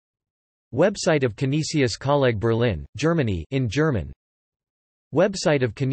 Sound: in German

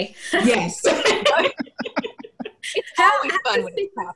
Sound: everyone laughing

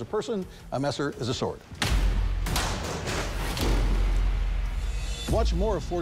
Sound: whacking

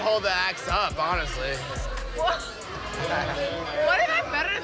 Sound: gasps

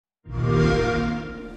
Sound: xbox sound

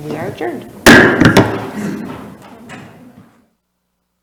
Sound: gavel slams

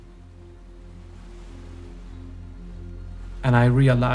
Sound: waves crashing

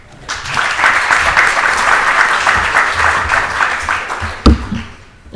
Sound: audience applauds

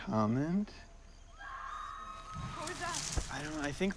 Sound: woman screaming

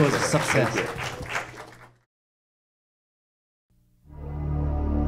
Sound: audience applauding; slow theme music

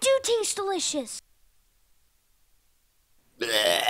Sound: throws up

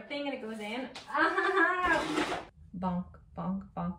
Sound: vacuum whirring

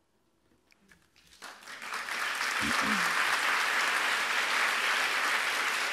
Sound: audience applauds

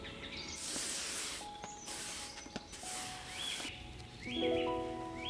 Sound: sweeping; petals rustle

